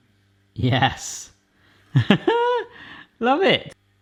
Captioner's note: laughing